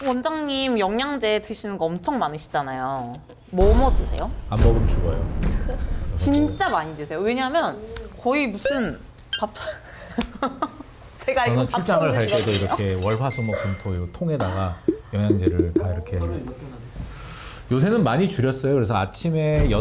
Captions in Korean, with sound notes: 원장님 영양제 드시는 거 엄청 많으시잖아요. 뭐뭐 드세요? 안 먹으면 죽어요. 진짜 많이 드세요. 왜냐면 거의 무슨 밥 [웃음] 제가 출장을 갈 때도 이렇게 월화수먹 분토요 통에다가 영양제를 다 이렇게 요새는 많이 줄였어요. 그래서 아침에